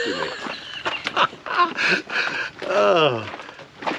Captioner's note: laughs